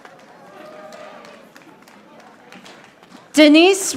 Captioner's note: audience applauding